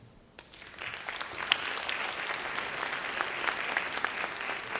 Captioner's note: audience applauds